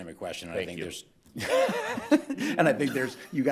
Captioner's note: chuckles